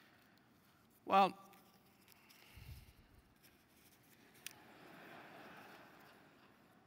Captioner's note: laugh